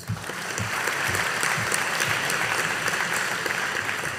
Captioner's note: audience applauding